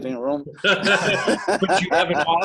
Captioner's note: laughter